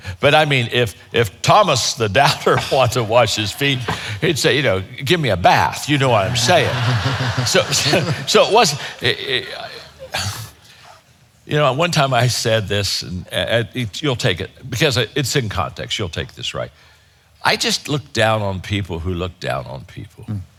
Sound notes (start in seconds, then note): 5.5 audience laughing